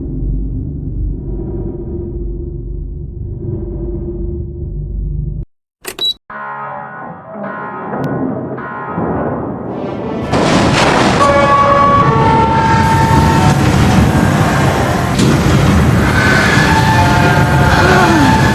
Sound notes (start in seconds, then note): 11.2 ding-dong; 12.8 blas Door Reopens